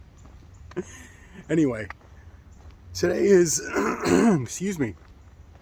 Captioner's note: clears throat